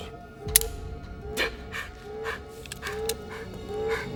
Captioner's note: gun clicks